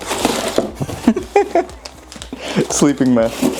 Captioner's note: laughs